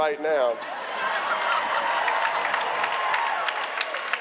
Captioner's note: applause